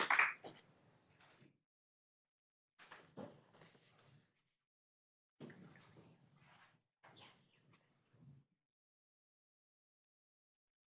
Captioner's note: applause